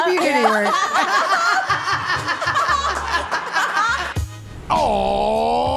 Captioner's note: all laugh; bright upbeat music